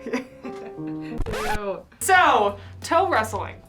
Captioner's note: record scratches